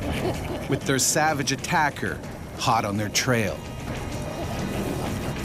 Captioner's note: voiceover